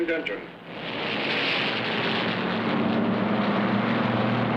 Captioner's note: engines rumbling